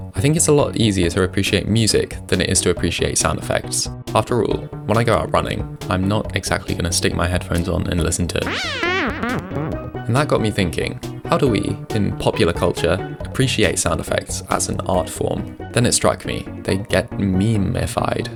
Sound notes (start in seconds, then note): 8.5 Mario World sound effects